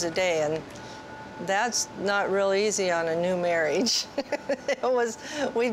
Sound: laughs

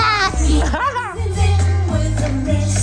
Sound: laughing

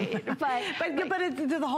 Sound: laughter

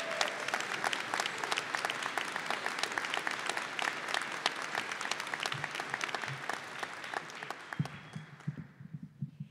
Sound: applause

